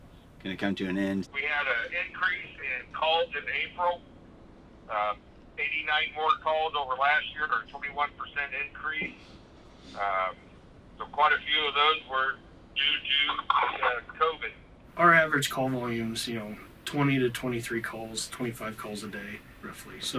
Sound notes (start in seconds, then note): 3.9 leader On Phone